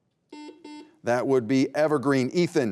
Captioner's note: beep